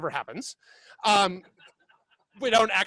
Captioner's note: laughing